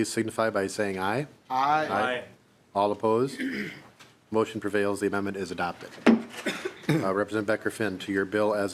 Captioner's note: chorus of ayes